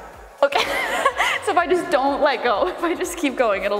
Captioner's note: laughing